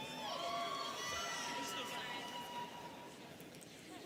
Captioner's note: students cheering